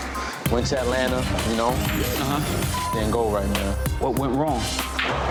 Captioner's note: beep